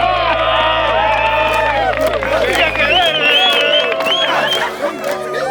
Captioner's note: cheers and applause